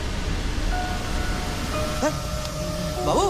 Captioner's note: electronic alarm